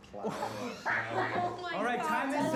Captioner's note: laughter